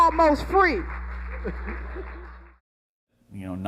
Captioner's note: laughing